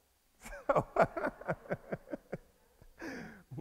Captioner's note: laughs